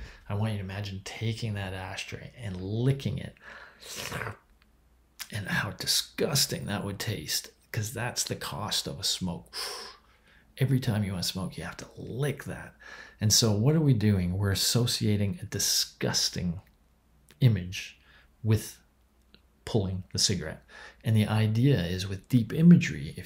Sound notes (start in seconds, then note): 9.5 imitates blowing smoke